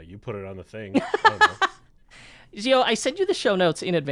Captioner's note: laughs